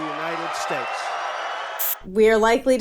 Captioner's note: audience cheering